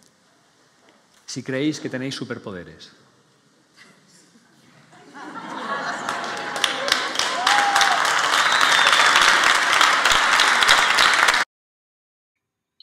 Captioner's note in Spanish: aplausos